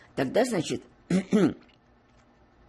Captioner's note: clears throat